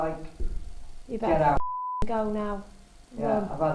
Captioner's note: beep